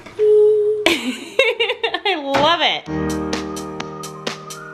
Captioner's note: laughs; pop music